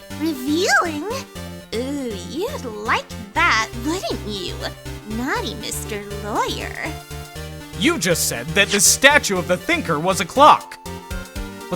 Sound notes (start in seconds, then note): none